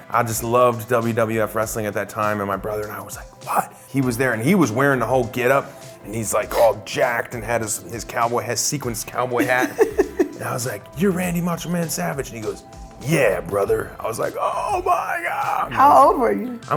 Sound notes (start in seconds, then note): 9.3 laughing